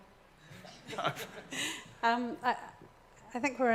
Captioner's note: laughs